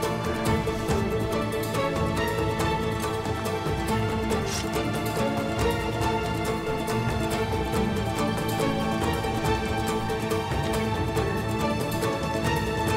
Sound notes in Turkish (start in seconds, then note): 4.4 Bıçak sesi; 5.4 Müzik - Hareketli